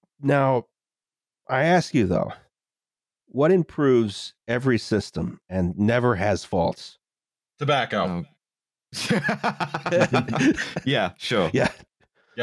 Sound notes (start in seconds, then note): 8.9 laughter